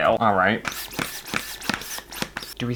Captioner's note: balloon Pumping Noises